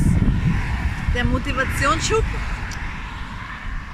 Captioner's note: traffic